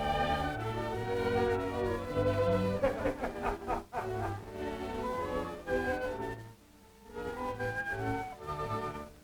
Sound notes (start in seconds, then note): 2.7 laughter; 5.5 cheerful music